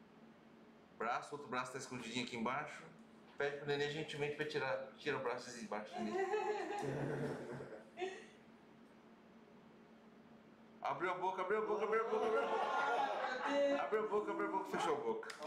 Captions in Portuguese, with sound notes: braço, o outro braço está escondido aqui embaixo a gente pede gentilmente para o bebê tirar tira o braço debaixo, bebê (risos) abriu a boca [GRITOS DE EMOÇÃO] abriu a boca fechou a boca